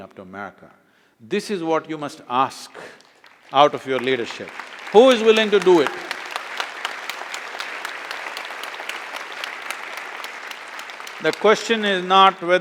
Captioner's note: applause